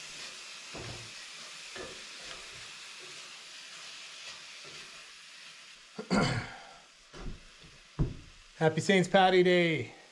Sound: water running; water running

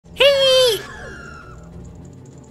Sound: screeches

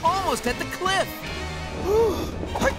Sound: gasping

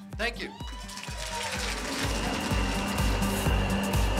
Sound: cheering

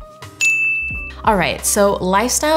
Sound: bell chimes

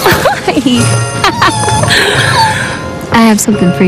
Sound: wife laughs

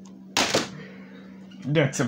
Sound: thud

